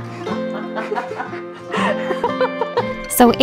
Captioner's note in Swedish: Skratt